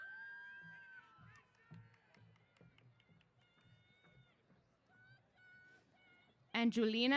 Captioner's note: cheers